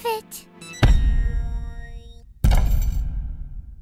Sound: heavy footsteps

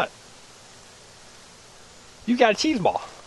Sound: voiceover

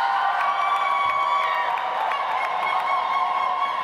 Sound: audience applauds

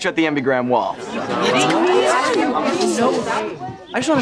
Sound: grumbling

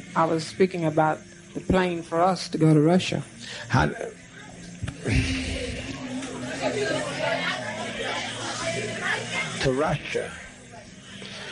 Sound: sighs

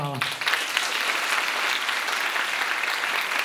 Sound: applause

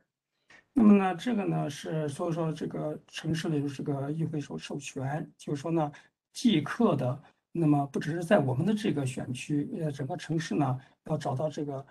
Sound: speaks in Mandarin

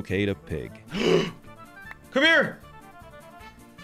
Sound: gasping

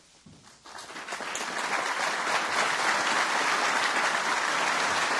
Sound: audience applauding

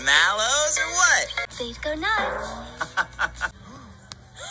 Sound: laughter

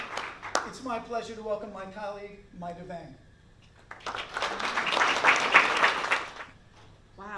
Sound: applause

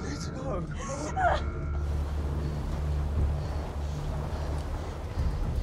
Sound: sobbing

